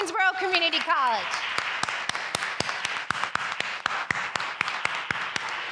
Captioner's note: audience applauding